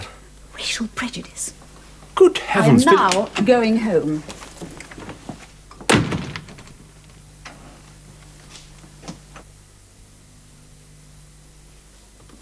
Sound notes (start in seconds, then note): 5.8 door closes